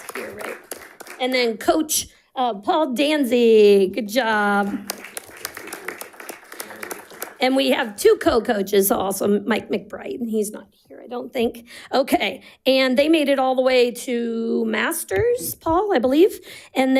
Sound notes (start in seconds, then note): 4.6 audience applauding